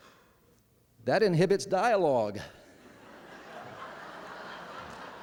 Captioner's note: laughter